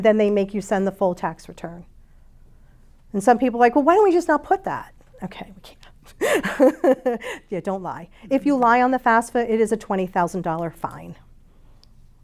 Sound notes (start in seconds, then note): 6.2 chuckles